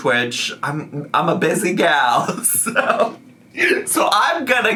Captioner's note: laughs